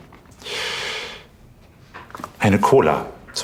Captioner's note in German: Er atmet geräuschvoll ein